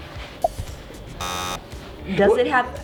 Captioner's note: buzzer